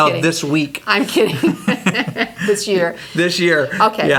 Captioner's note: laughs